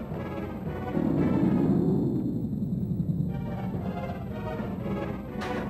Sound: monster growls

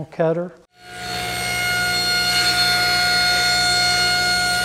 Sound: panel cutter buzzing

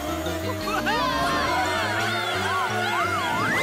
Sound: all screaming

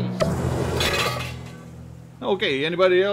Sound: metallic clanking

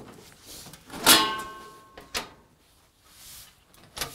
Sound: metal clanking

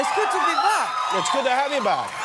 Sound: cheers and applause

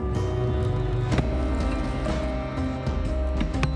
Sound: thumping

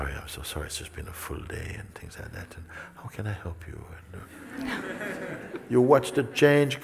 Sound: smijeh

